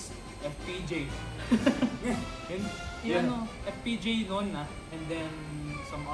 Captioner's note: laughs